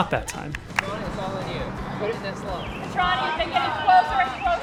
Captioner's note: pat